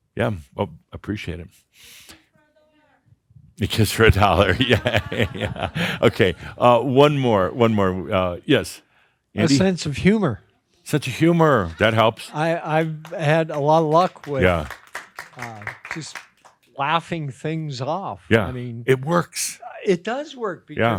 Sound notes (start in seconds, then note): 4.2 Adamus chuckles; 12.6 starts clapping, a few join in